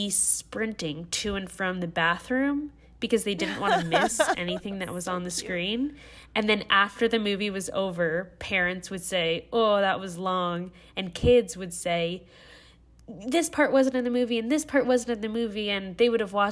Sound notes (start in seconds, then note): 3.4 laughter